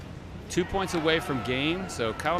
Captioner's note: crowd cheers